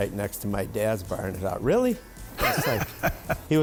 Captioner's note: laughing